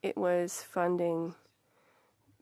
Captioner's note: speaking French